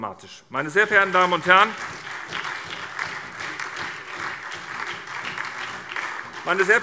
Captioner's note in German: Beifall SPD und DIE LINKE